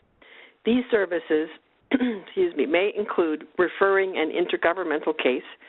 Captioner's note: clears throat